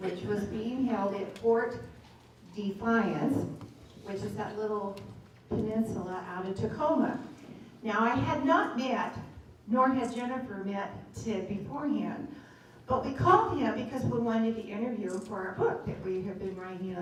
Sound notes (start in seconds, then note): none